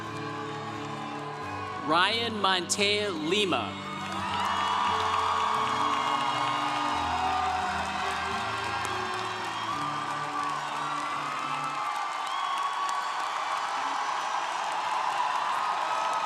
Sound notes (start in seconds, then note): 0.1 congregation cheering; 4.2 congregation applauding